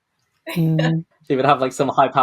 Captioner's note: laughs